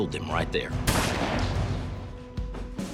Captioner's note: gun firing